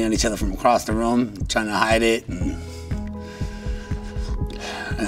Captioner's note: sighs